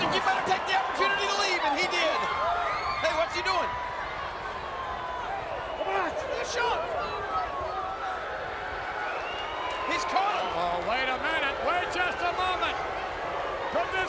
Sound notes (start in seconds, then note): 7.1 audience chattering